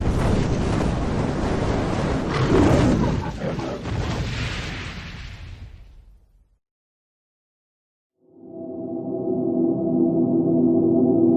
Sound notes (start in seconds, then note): 0.0 flames crackling; 2.3 lion roars; 4.1 explosion pops; 8.2 ethereal music